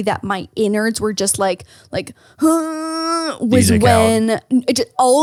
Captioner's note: grumbling